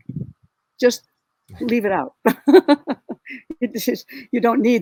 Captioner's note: chuckles